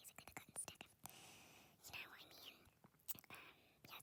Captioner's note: deep breath